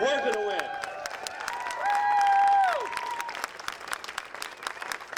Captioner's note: audience applauding